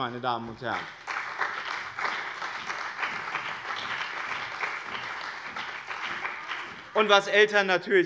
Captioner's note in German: Beifall bei dem BÜNDNIS 90/DIE GRÜNEN und der CDU